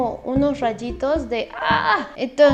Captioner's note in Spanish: hace sonidos raros